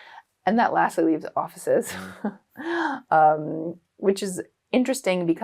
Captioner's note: chuckles